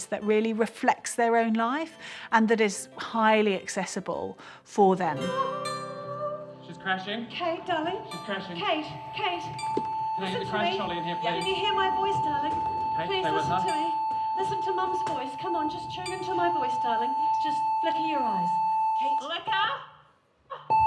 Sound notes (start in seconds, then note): 11.4 high-pitched whine; 20.7 beep! beep!